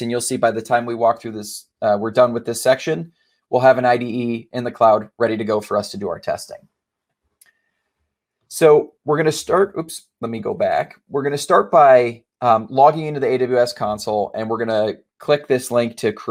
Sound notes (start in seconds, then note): none